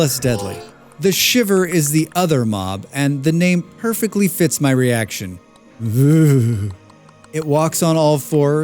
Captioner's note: ughhh